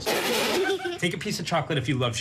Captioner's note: laugh